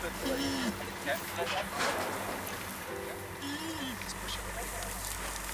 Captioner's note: little rhino grunts